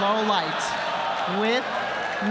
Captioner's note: applause